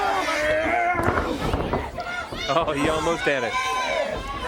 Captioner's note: crowd chatter